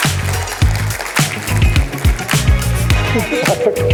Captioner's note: applause